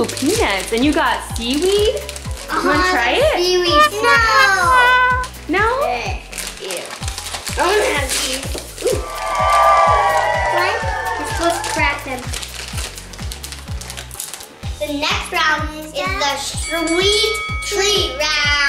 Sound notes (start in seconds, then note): 3.8 sad trombone; 8.8 cheering